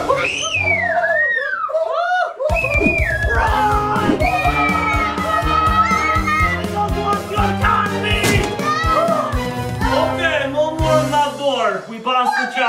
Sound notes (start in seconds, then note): 0.1 screams; 2.5 intense music; 3.0 all screaming